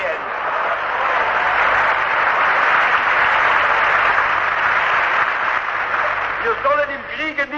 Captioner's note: laughter, Applause